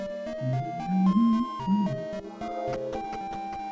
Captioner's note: humming along